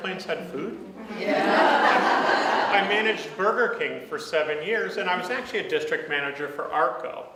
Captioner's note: audience laughs